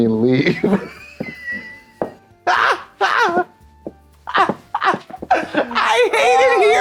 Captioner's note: blonde Women caterwaul and stomp